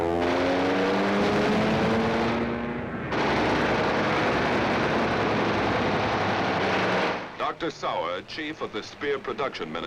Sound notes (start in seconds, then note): 1.4 bomb booming; 4.2 guns firing